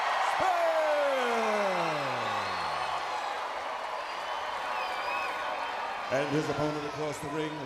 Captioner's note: crowd cheering